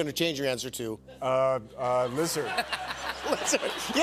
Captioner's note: laughter